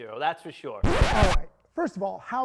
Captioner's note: record scratching